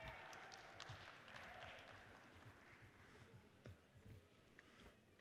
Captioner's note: audience cheers and applauds